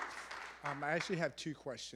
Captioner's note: applause